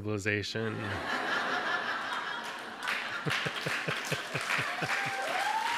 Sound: audience laughs and cheers

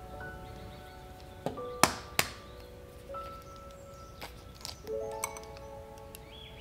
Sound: egg cracks

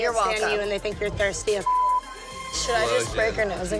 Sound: beep

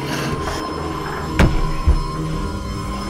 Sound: thudding

